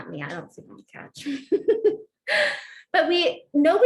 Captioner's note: laughter